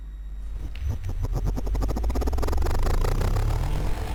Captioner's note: machine whirring